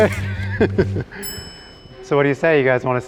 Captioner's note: laughing; clock timer chiming